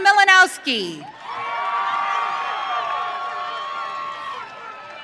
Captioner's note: audience cheering